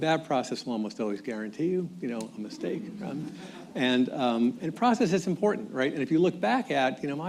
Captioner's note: laughter